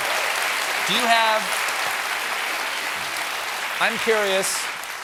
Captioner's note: applause